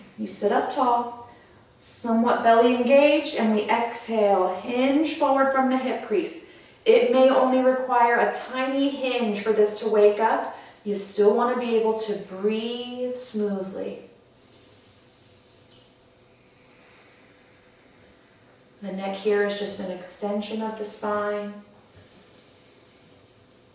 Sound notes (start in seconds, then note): 14.3 audible breath